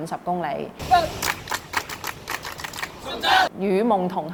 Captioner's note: clapping